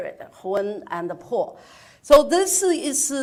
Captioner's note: speaks in foreign language